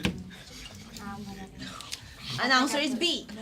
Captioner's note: students murmur